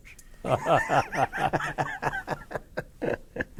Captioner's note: laughter